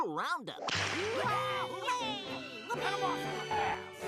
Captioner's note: all exclaiming